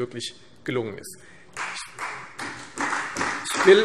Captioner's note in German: Beifall Freie Demokraten und vereinzelt CDU